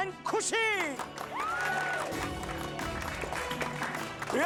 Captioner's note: clapping